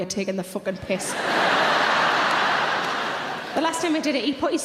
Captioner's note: audience laughing loudly